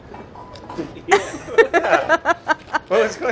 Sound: laughs

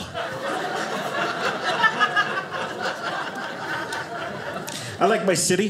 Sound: audience laughing

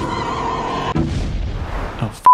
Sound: explosion

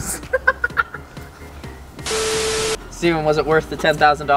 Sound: laughing

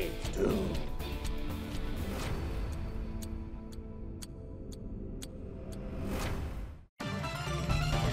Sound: dramatic music; clock ticking; upbeat electronic music

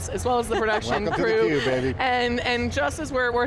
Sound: laughs

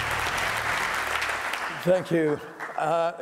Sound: applause

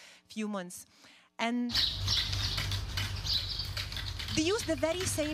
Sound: tools clattering

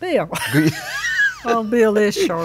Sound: laughs

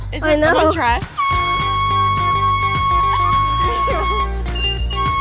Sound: air horn sounding; epic rock music

